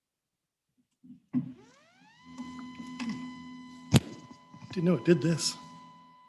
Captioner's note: lectern whirring